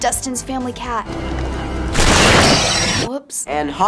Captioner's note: hissing